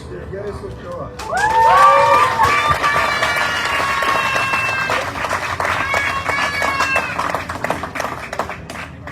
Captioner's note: audience cheering, applauding